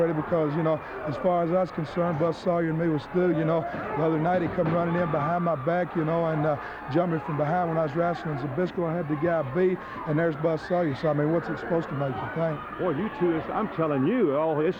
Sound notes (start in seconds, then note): 3.3 wrestlers grunting; 3.6 blows thudding